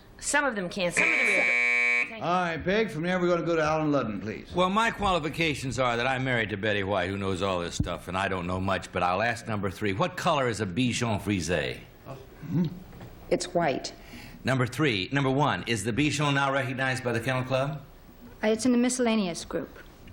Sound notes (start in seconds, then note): 0.9 buzz